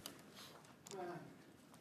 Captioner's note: speaking French